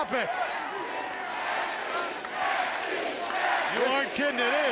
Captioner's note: crowd cheering